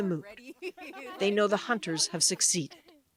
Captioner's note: laughter